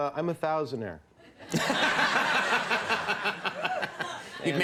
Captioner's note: crowd laughing